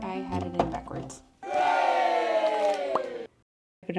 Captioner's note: cheer